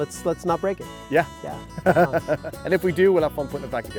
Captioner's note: laughing